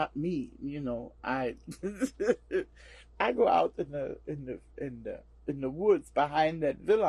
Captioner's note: laughs